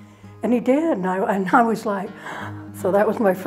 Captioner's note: gasps